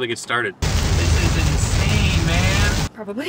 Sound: rain pattering

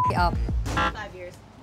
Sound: buzzer

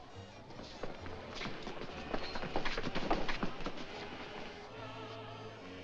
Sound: sounds of struggling; jovial music & singing

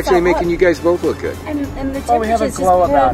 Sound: man's voice

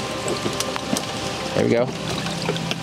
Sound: branches creaking

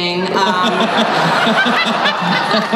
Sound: audience laughs

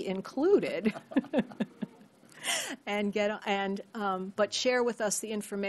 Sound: laughter

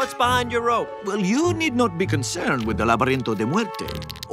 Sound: spanish

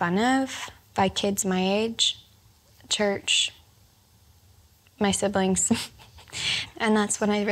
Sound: laughs

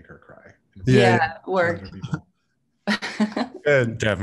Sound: laughs

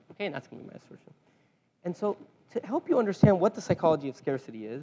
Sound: none

